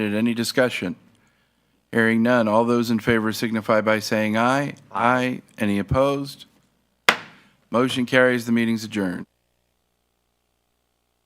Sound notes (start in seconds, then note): 7.1 gavel thuds